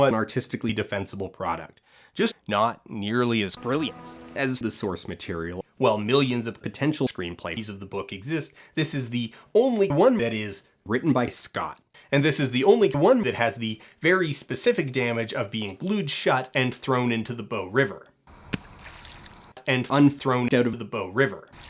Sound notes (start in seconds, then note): 18.5 splashing sounds